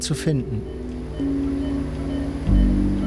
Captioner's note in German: Piepen